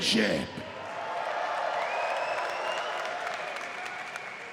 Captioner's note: audience cheers